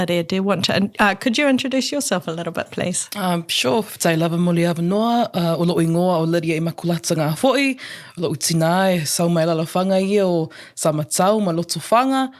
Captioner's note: introduces herself in Samoan